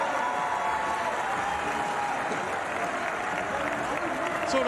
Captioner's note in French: applause